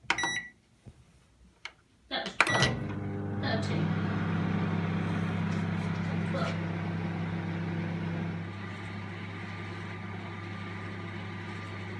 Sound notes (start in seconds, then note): 0.0 microwave button beeps each time it is pressed to change the time on the display; 2.4 beep when Start button is pressed; 6.9 sound of microwave running